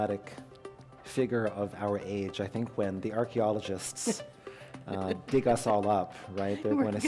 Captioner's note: laughter